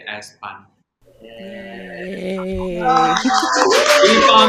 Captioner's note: cheering